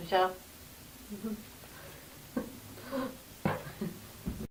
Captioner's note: laughter